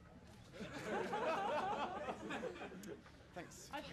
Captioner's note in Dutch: publiek lacht